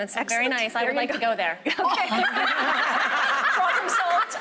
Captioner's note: laughing